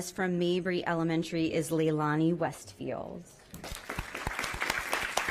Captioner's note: applause